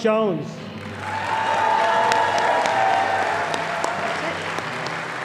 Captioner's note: audience applauding